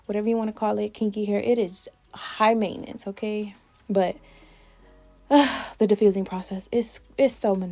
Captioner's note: sigh